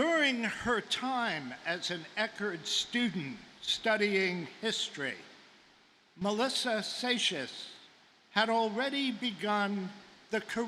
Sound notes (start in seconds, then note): none